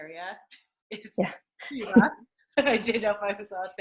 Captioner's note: laughs; doctor chuckles